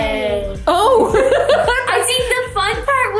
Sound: laughs

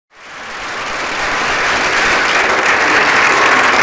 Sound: audience applauds

